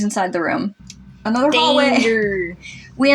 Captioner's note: chuckle